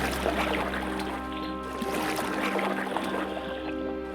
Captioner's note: splashing